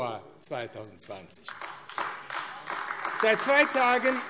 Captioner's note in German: Beifall AfD